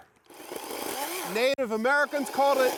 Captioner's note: saw whirring